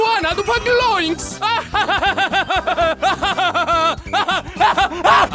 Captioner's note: cackling maniacally